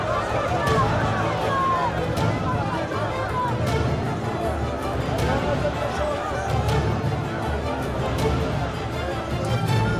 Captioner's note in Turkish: Kalabalık bağrışma sesleri